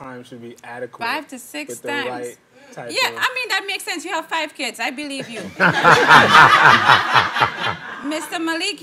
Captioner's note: everyone laughing